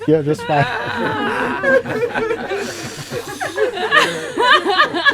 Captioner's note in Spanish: Risas